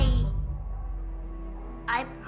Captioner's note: hesitant